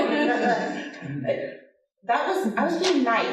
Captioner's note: audience laughing